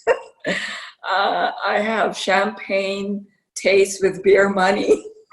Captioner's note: laughter